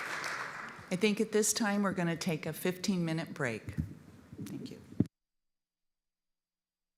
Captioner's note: applause